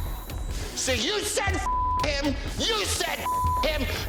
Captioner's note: beep